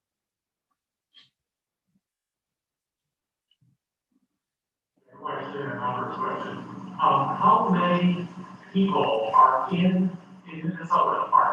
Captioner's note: away from the mic